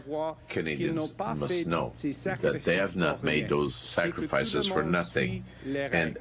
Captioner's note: speaking French